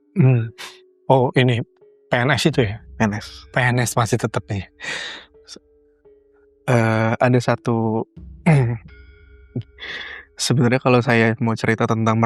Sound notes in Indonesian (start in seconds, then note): 4.8 terkesiap; 9.8 berdehem